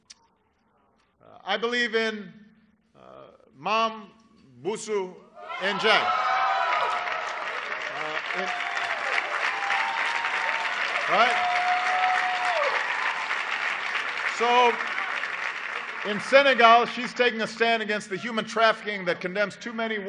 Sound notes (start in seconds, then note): 8.8 applause